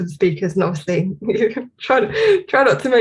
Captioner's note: giggles